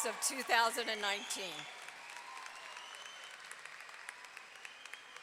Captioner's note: audience clapping and cheering